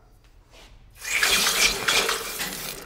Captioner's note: seething sounds